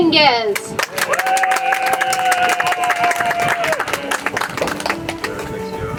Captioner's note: audience applauds; soft music